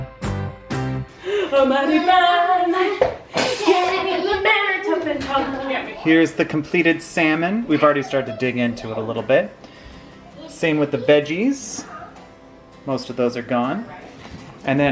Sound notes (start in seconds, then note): 1.7 kids noise